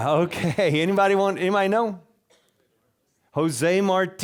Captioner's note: audience laughing